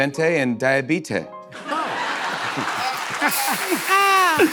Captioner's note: laughter